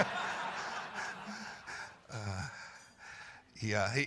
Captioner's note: laughter